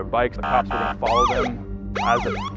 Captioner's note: police siren wailing